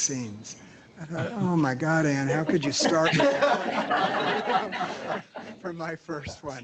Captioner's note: laughter